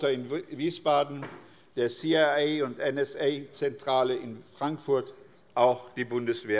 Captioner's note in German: none